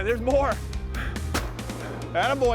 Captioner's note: gun shot